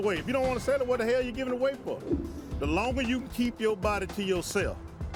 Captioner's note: none